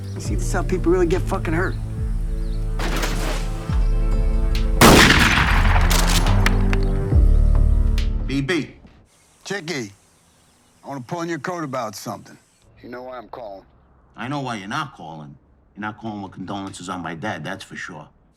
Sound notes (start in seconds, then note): 2.7 fires gun